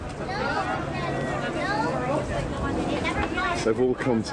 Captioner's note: crowd chattering